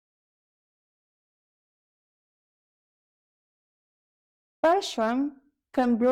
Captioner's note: silence